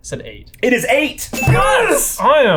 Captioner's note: bell dinging